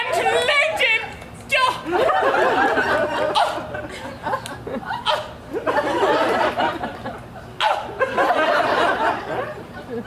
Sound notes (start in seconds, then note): 1.9 audience laughs